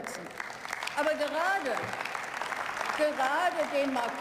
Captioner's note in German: Beifall